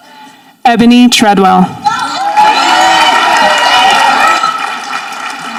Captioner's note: audience applauding